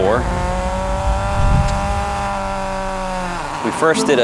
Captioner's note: car engine revving